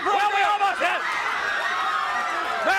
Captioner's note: crowd cheering